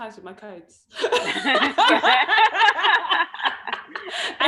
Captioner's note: laughs